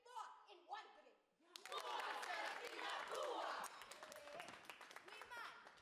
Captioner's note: students chant